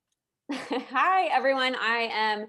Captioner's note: laughing